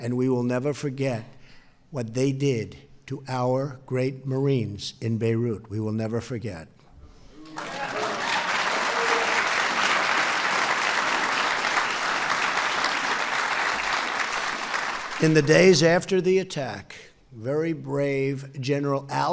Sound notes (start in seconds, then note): 7.4 applause